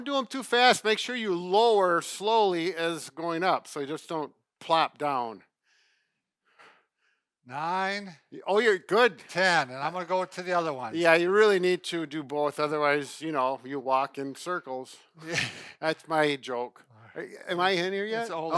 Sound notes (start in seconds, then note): 15.2 laughs